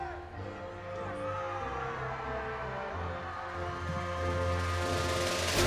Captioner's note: audience cheering